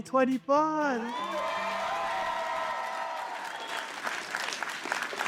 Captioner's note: applause